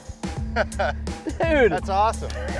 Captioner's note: laughing